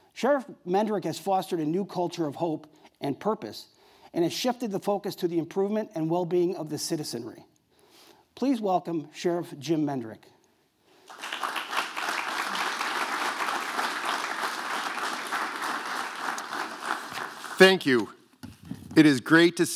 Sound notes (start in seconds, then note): 11.0 applause